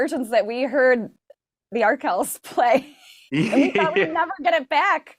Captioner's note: laughing